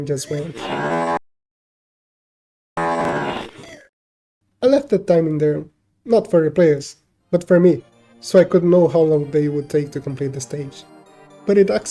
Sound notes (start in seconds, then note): 2.2 brain recovery sounds